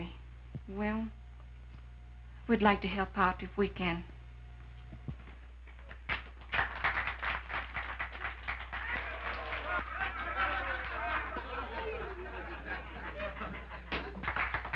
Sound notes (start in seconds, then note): 5.9 crowd applauding; 8.8 men laughing